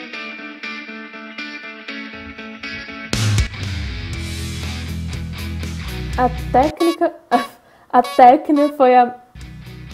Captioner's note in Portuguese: buzina de palhaço